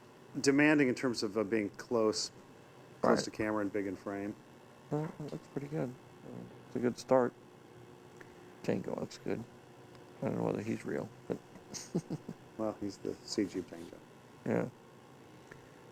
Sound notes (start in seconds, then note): 11.3 chuckles